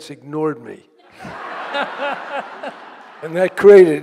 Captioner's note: laughing